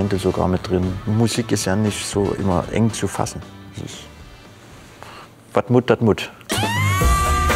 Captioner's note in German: plattdeutsch